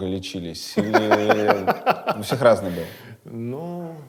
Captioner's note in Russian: смеётся